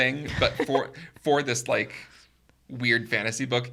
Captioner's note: chuckling